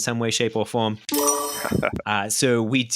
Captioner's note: chimes